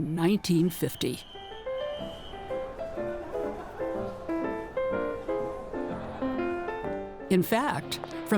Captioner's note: whistle blowing; soft piano music